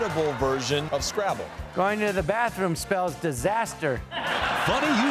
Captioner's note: laughter